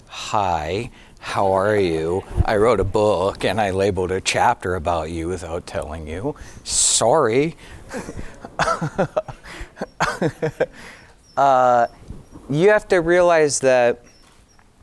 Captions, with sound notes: hi, how are you? I wrote a book and I labeled a chapter about you without telling you, sorry. (giggling)